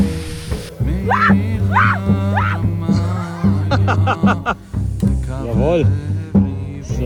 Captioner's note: scream; laugh; speaking German